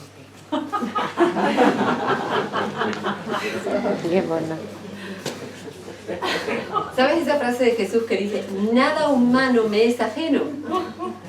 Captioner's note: laughs